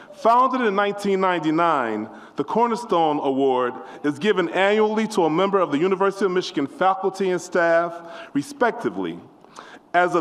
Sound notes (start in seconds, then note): none